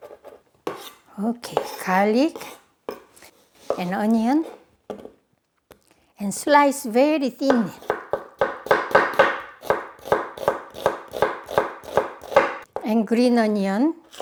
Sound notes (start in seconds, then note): 8.4 knife thumping